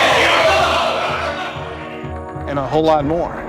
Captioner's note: all shouting